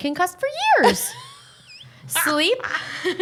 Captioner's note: laughing